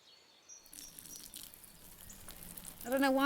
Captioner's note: urine trickling